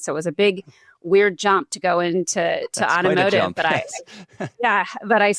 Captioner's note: chuckles